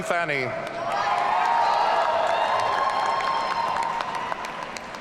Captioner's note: audience cheering